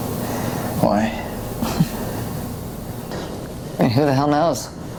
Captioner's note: Tina chuckles